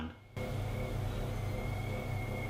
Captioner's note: whistling Sound